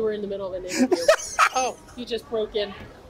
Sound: laughs

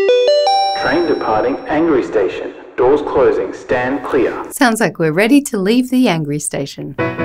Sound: train departing angry station, doors closing, stand clear

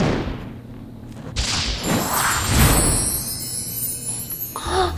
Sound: magic sounds

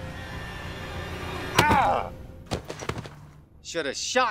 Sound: thud

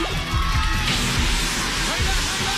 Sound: alarm sounds

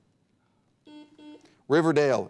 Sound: buzzer beeps

